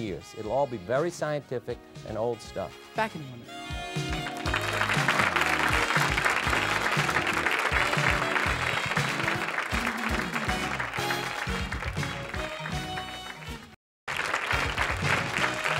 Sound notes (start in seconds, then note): 4.0 audience applause; 9.9 theme music